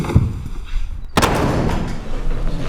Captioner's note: door slams